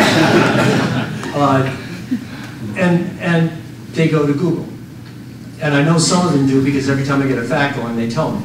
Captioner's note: laughter